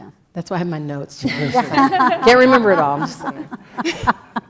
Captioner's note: laugh